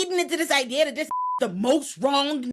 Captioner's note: beep